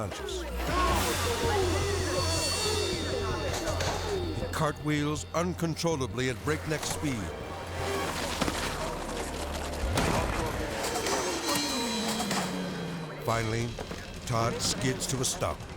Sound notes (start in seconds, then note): 6.7 crashes; 15.6 tense music